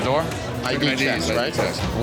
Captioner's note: chatter